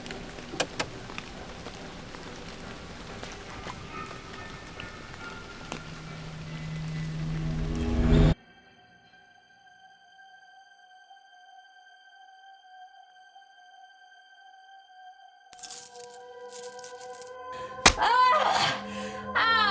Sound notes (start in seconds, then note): 15.5 coins Rattling; 17.8 screaming